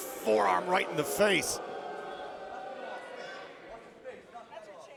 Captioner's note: crowd boos